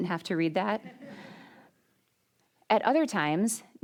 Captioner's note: audience laughing